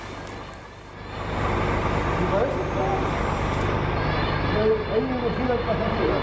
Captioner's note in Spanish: Sonido de maquinaria y aviso sonoro